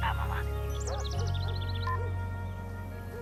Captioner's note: phone beeps off, dog barks